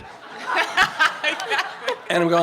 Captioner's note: laughter